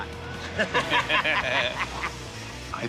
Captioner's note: laughter